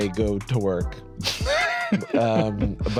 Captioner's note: laughs